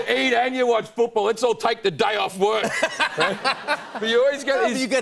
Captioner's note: laughter